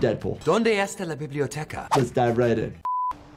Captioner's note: Deadpool speaking foreign language